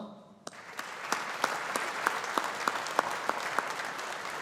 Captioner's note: audience applauding